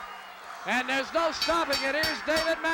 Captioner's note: bell ringing